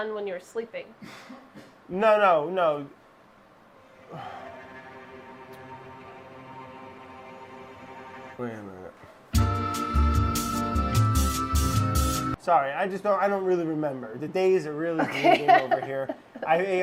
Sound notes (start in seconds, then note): 3.9 sighs; 9.3 soft music; 16.0 laughing